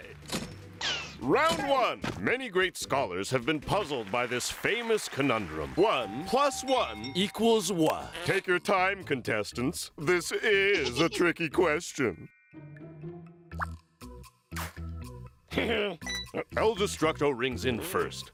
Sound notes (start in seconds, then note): 14.5 laughs